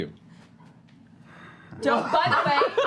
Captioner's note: sighs